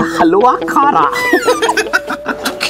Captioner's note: Snickering